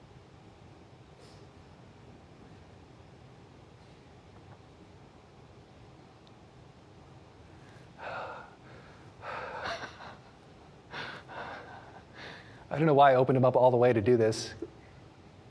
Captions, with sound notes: [heavy breathing] [laughing] I don't know why I opened them up all the way to do this.